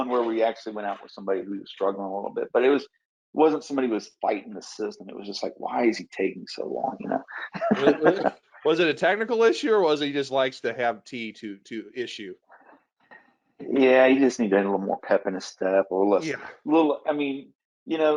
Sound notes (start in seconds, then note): 6.9 laughs